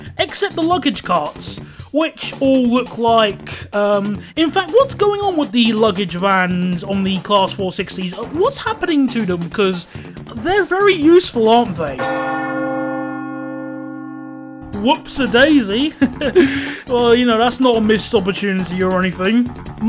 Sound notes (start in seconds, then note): 11.9 death knell; 15.9 chortle